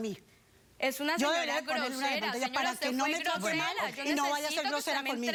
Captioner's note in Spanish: Hablan al unísono